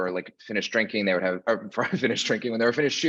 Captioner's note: chuckles